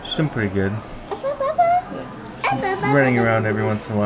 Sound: vocalizing

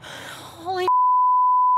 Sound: beep

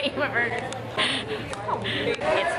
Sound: laughs

